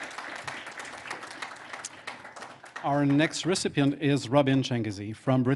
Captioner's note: applause